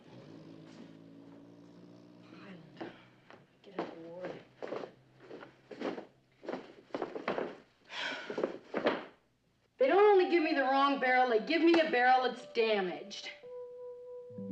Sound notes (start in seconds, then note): 2.6 mırıldanma; 7.8 iç çeker